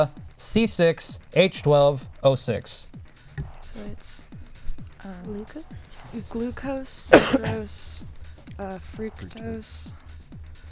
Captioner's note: wispering